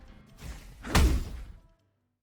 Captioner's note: swoosh, Thud